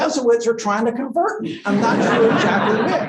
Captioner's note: laughter